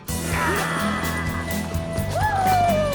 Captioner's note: whooping